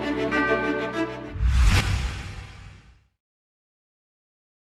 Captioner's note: swoosh